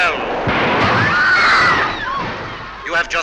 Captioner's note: train whistle and screams